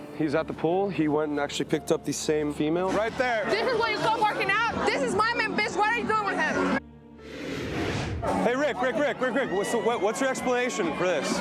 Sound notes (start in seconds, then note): 7.1 dramatic whoosh